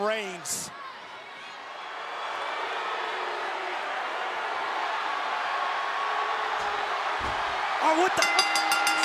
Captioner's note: applause